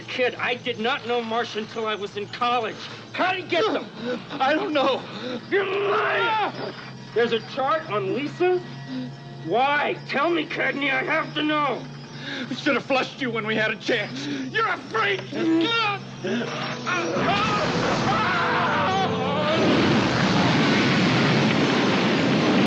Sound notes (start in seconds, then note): 16.2 struggles; 16.9 flames whoosh, screaming